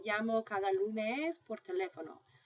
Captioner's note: speaking spanish